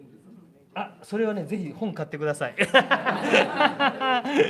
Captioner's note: 笑い